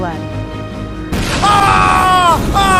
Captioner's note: screaming